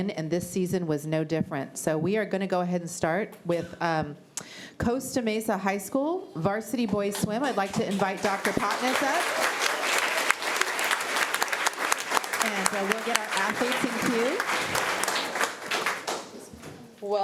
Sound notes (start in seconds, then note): 8.7 applause